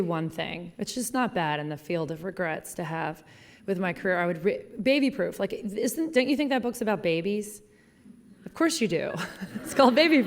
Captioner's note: laughing